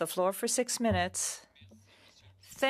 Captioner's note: speaking French